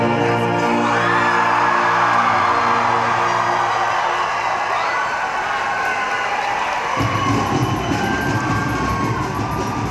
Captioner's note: music and applause